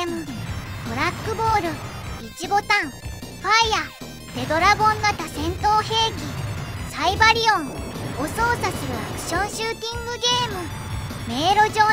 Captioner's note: fire